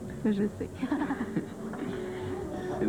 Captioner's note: Rires